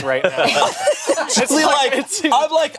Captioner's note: group laughing